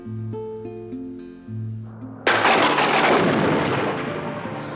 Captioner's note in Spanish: trueno rugiendo